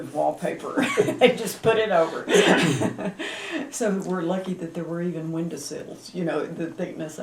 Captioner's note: laughter